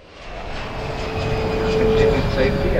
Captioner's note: plane roaring